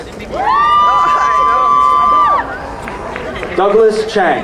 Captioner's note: crowd cheering